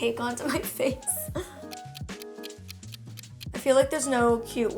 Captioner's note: clock ticking